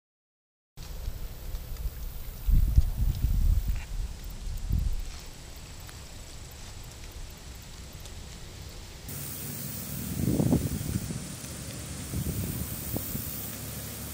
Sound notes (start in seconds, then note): 2.1 light breeze